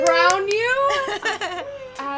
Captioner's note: chuckles